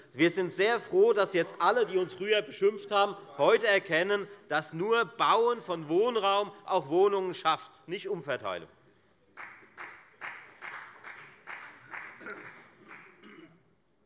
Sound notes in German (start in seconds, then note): 9.3 Beifall bei der FDP